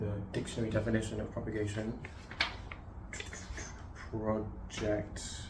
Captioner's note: page turn